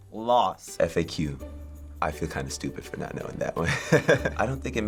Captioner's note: chuckles